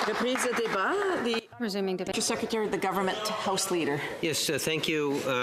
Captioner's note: applause